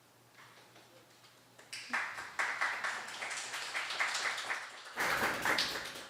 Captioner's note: applause